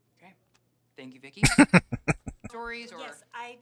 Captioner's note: chuckling